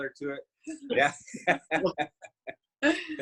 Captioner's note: chuckles